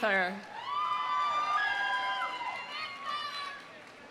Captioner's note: audience cheering